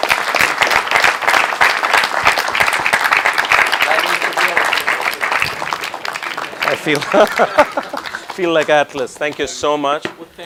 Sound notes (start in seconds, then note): 5.2 applause; 6.8 laugh